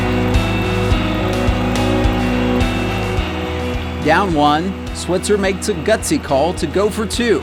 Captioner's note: fans cheer and applaud